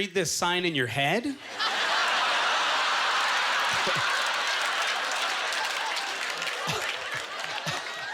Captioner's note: audience laughter; applause